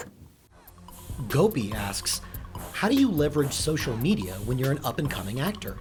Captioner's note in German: Voice-over